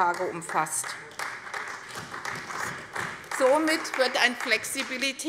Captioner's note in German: Beifall bei der CDU und dem BÜNDNIS 90/DIE GRÜNEN